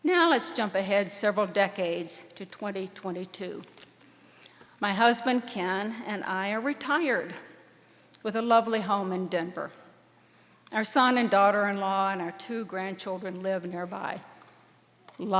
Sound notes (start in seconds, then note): none